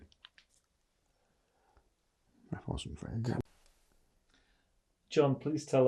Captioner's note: pauses 4 seconds